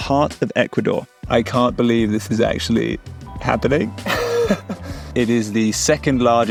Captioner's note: laughs